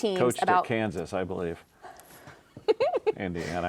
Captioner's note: giggling